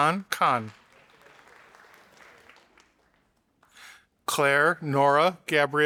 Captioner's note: audience applauding